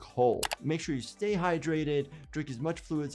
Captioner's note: keyboard keys clicking